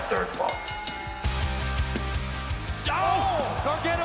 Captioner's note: bell ringing